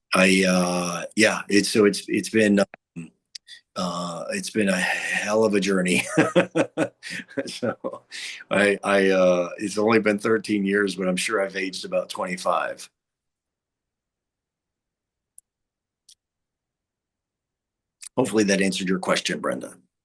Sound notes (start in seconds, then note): 5.7 laughing